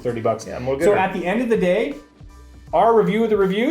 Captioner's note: none